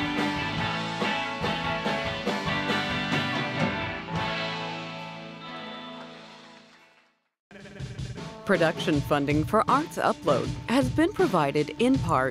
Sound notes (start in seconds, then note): 6.4 applause